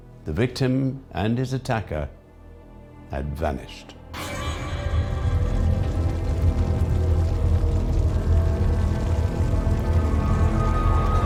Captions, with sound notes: The victim and his attacker had vanished. (dramatic music) (fire roaring)